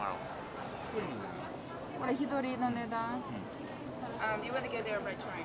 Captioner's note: speaking in foreign language